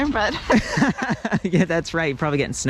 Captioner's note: laughing loudly